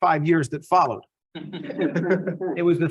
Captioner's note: laughs